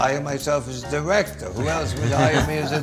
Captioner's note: laughs